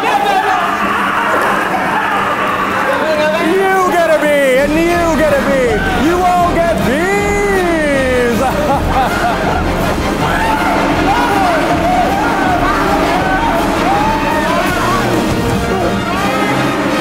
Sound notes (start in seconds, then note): 0.1 laughing; 8.7 orchestra music continues; 11.1 screaming and buzzing